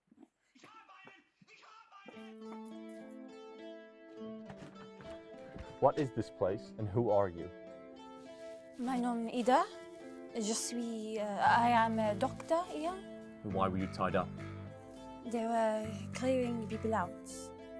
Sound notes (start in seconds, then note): 2.5 contemplative guitar rock starts; 10.6 speaking foreign language